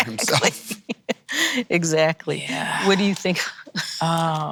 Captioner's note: laughs